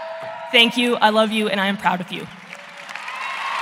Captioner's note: cheering